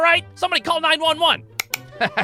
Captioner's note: click!